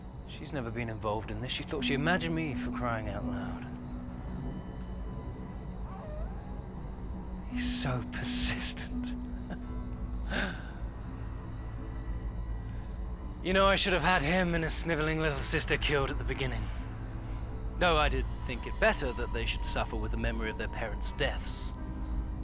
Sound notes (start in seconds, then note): 6.0 wolf howling at the distance; 9.4 chuckles